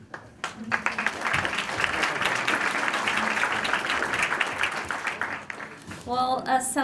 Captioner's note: applause